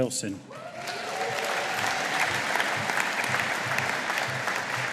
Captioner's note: audience applauding